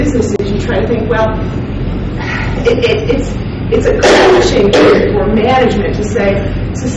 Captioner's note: coughing drowns out speaker